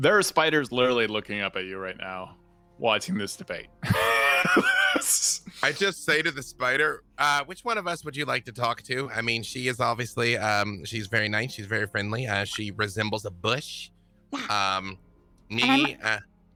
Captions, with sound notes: - There are spiders literally looking up at you right now watching this debate. (wheezes) - I just say to the spider, which one of us would you like to talk to? I mean, she is obviously... She's very nice. She's very friendly. she resembles a bush. Me...